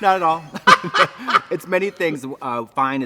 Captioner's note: both laugh